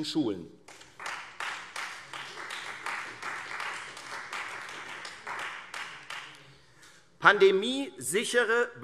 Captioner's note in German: Beifall